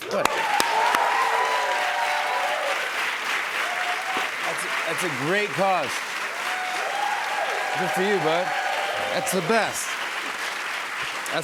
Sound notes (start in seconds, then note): 0.2 cheers and applause; 3.0 crowd cheering; 6.3 applause